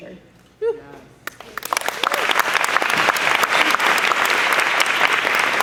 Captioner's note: clapping, cheering